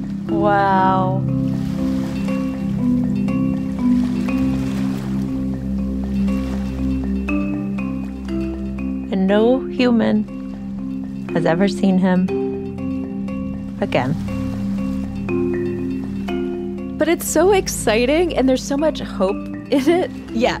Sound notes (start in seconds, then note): 3.1 mystical music; 3.1 water sloshing